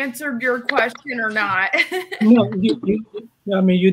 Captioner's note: laughs